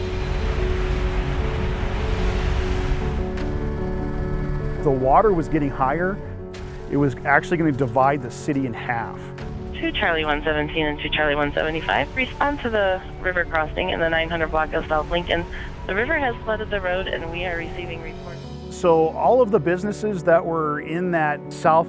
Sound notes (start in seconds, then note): 9.8 conversation over radio